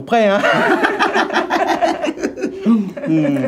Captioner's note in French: rires